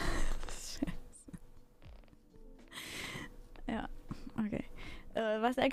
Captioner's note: laugh